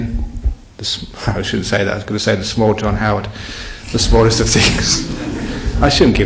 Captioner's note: laughter